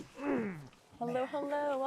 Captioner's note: Jason grunts